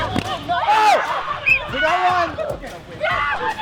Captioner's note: band music continues; whistle blows; campers screaming